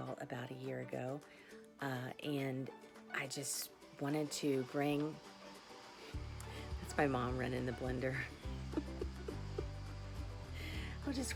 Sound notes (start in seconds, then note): 4.9 machine whirring; 8.4 laughs